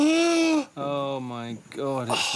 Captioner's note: Stephen gasps